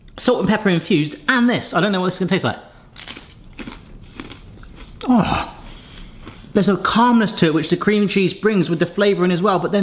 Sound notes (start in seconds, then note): 2.9 crunching